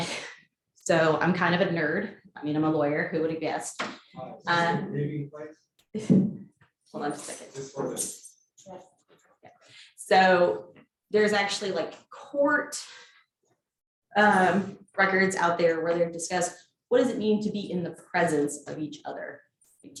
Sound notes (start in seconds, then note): 4.8 distant chattering